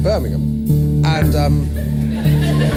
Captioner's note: audience laughter